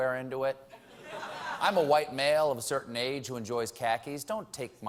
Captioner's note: laughter